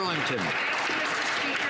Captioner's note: some Applause